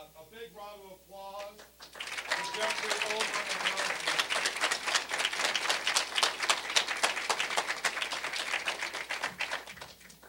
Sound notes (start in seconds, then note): 3.5 applause